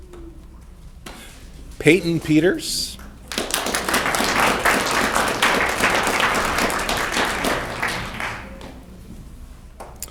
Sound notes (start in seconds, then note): 3.7 audience clapping